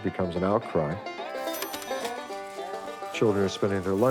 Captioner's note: cash registers and sirens